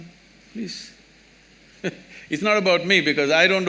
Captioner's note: laughs